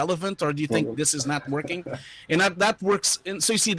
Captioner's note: laughing